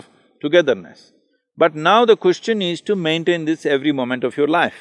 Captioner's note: none